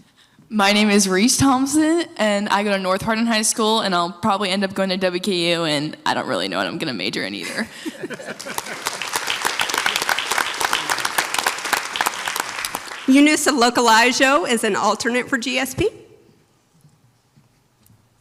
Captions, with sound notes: - My name is Reese Thompson, and I go to North Hardin High School and I'll probably end up going to WKU, and I don't really know what I'm gonna major in either. (audience applauds) - Eunice Alokalaijo is an alternate for GSP.